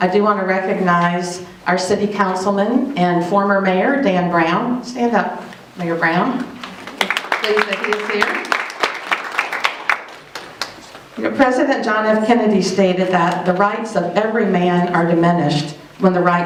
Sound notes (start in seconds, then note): 6.6 applause